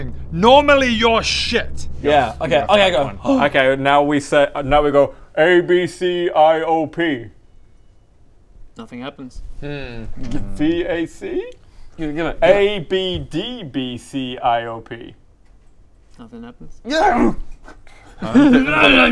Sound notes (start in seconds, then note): 16.8 Alan-imal noises; 17.0 grrrrargh!